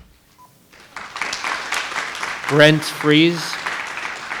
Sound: microphone beeping; attendees applauding

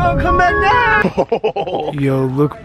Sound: chuckles

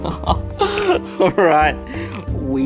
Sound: laughs

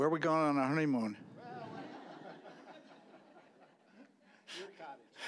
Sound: audience laughing

